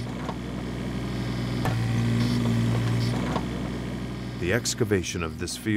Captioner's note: machinery grinding